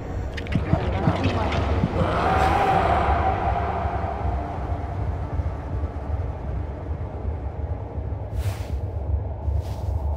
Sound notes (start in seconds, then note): 0.4 bleating and rapid heartbeat